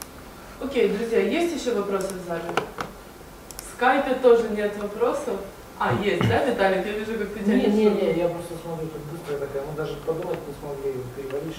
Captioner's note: discussion in the audience